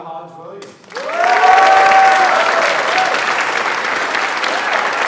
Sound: audience applauds

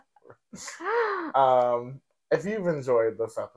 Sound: laughing

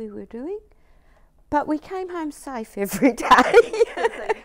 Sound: laughs

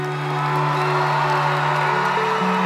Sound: cheering

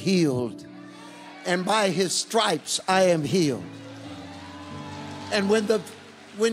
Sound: congregation cheering

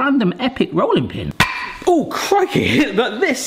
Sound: box whacks

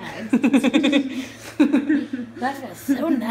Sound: laughter

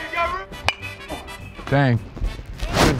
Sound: metal bat clanks

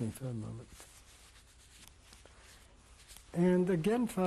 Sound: pauses for 3 seconds

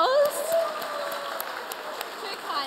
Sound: audience applaud

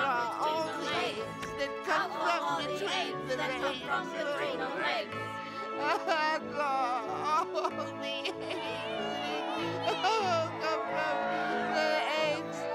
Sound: celebration, censordoll weakly chanting and almost crying

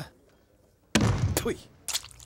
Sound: spitting

